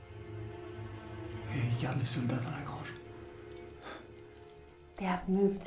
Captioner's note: Ellie speaks in French; speaks in French